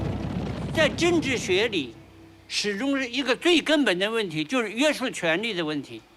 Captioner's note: hablan un idioma extranjero